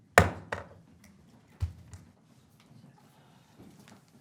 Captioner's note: gavel tapping